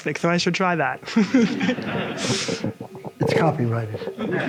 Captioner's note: audience laughs